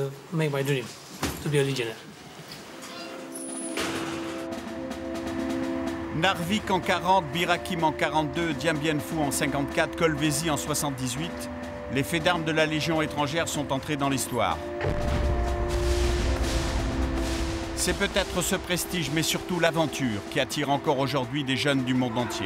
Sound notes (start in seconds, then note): 7.6 French spoken audio